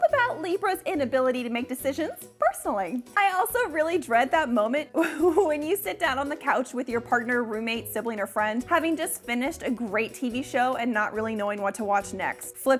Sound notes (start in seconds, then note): 4.9 giggles